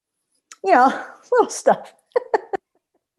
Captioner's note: laughter